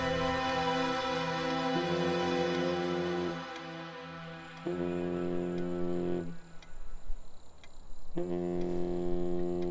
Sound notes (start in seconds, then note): 1.8 Phone vibrating